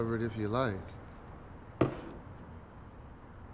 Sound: light thud

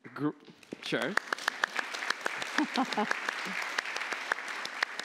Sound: applause

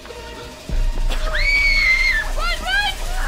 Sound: Stephanie screams

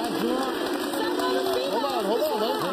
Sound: audience applauding

